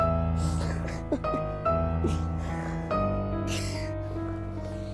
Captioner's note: Michael laughing